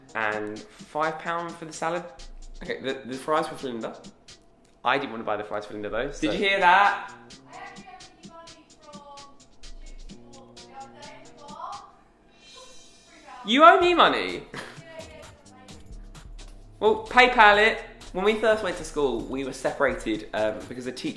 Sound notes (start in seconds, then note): 7.4 voiceover; 12.4 laughs; 15.1 voiceover